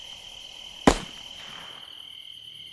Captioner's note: gunshot